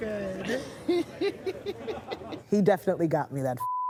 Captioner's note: laughs